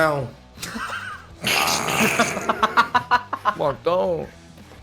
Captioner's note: laughs